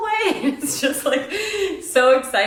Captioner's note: laughing